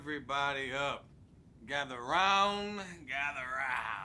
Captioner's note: laughs